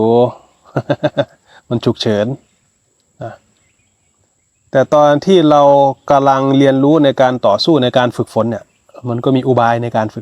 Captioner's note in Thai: เสียงหัวเราะ